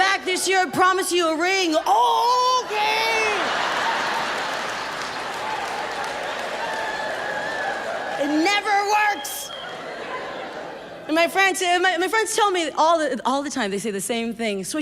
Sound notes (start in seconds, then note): 2.1 audience laughs and claps